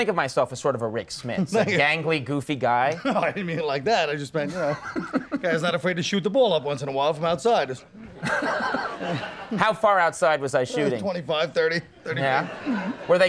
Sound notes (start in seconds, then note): 4.4 Colin laughing; 4.5 audience laughing; 8.2 Conan laughing